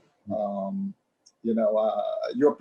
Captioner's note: laughs